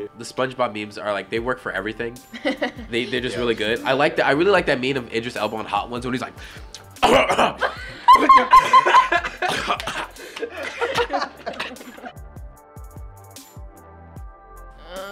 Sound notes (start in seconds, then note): 7.0 coughs; 7.4 laughs; 12.3 mellow music